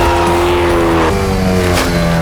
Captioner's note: engine whirring